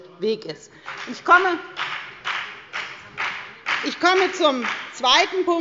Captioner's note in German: Beifall bei der FDP